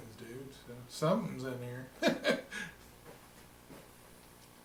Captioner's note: chuckling